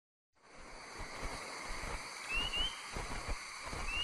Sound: animals calling

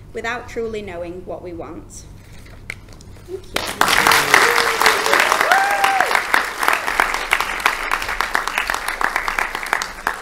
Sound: applause

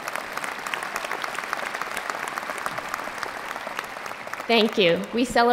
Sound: applause

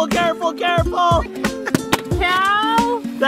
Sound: dad laughs

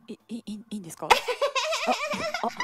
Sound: laughing

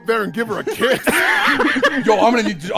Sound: laughter

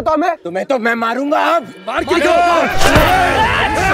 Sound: indistinct chatter

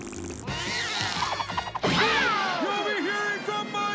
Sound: yowling

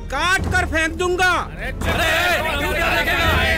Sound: ruckus

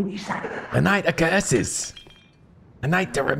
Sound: breathy

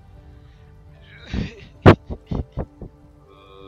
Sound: sobs

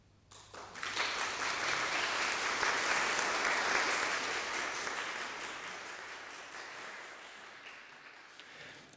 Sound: applause

